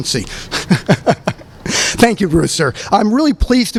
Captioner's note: laughs